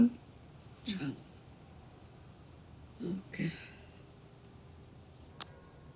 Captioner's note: speaking in foreign language